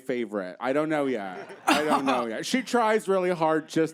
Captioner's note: playful scoff